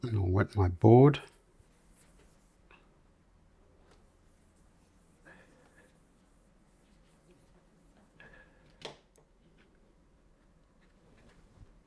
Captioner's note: silence